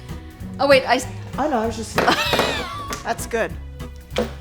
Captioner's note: laughing